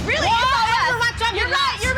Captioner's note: arguing